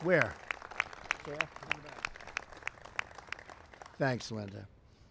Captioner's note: applause